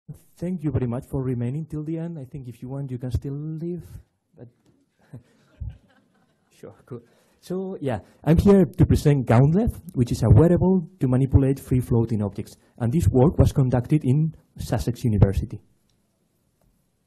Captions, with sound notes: - Thank you very much for remaining till the end. I think if you want, you can still leave. (audience laughing) Sure, cool. So, yeah, I'm here to present GauntLev which is a wearable to manipulate free-floating objects and this work was conducted in Sussex University.